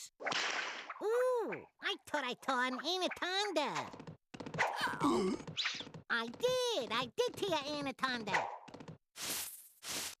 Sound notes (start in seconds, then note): 0.2 whip cracking; 4.6 choking